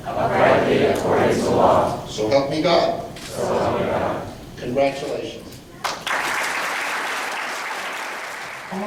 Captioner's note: applause